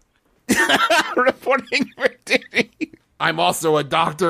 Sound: laughing

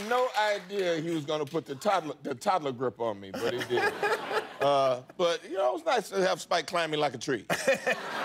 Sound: applause

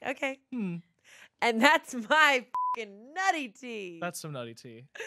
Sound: beep

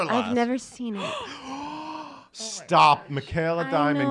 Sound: gasps

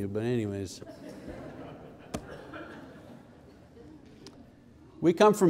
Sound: the audience laughs

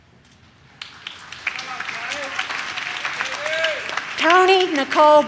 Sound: audience claps

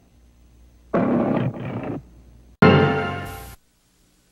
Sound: roaring continuing

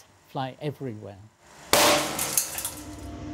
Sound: glass tube bursts

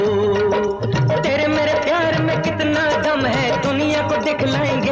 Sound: none

